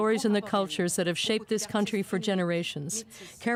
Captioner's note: speaking French